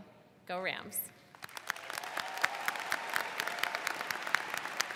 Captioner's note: all clap